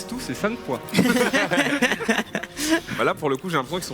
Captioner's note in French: rires